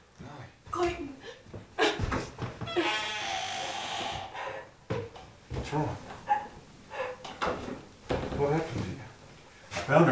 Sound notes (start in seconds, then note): 2.6 door creaks; 2.6 sobs